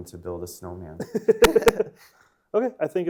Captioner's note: laughing